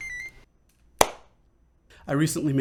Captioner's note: clap